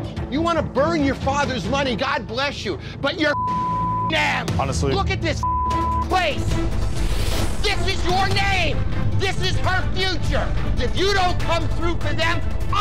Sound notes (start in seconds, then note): 3.3 beep; 5.4 beep